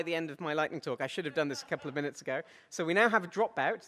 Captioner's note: audience laughs